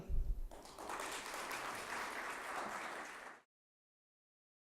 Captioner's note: audience applauding